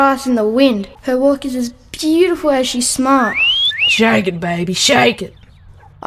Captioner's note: mouth, whistles